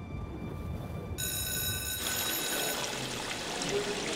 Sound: schoolbell rings

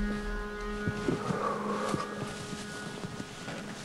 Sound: exhales deeply

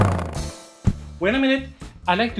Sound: sound of skateboard rolling; sound of man hitting the floor

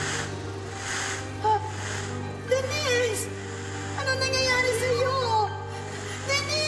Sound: gasps

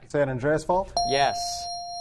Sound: ding

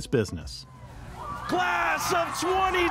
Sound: cheering

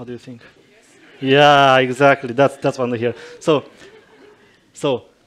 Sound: approval from the audience

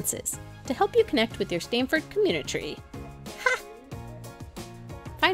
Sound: laughs

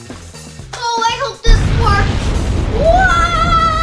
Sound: explosion booms

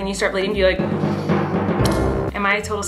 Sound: sucks finger

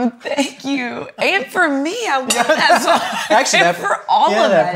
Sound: chuckles

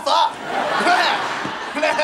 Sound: laughing

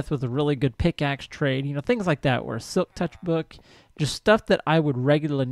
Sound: chattering continues

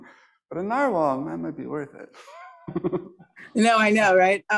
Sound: laughs

